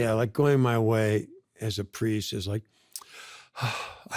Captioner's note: sighs